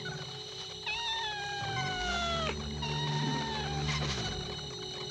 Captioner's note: kitten meowing